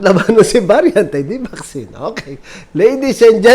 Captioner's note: laughing; laughs